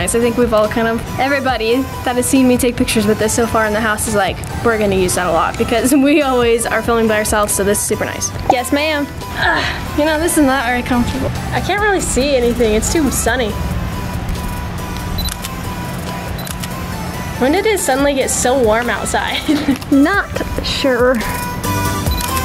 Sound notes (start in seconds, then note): 16.3 camera beeps and clicks; 22.0 camera beeps and clicks